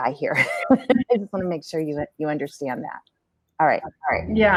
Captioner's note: laughter